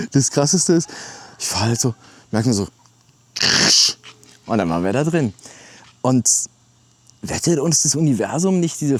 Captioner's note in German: schnauben